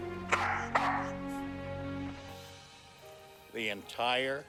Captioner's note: jumpy barking